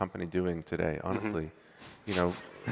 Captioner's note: laughter